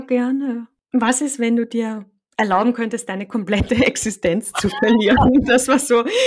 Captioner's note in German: lachen